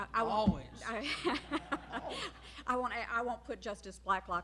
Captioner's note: laughter